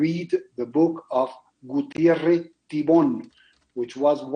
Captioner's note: speaks foreign language